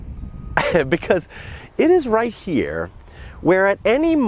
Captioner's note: laughs